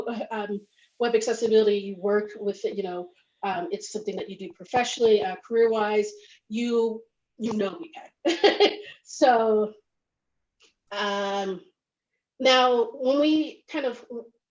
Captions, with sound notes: you work with it, it's something that you do professionally career wise. You know WVAG (laughs). So now when we kind of talking about,